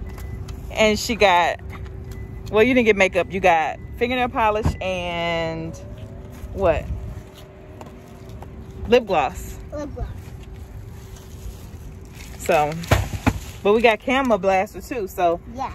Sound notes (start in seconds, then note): none